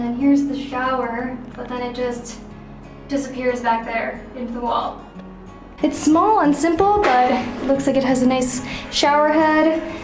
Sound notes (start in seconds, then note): none